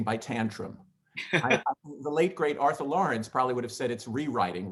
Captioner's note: laughing